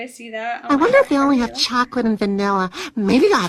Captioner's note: gasp